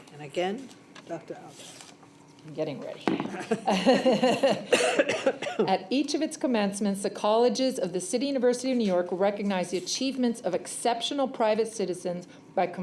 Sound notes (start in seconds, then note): 3.4 laughs